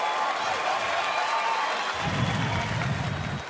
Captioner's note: applause, cheering and laughter